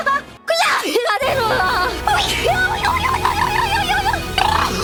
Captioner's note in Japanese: くしゃみ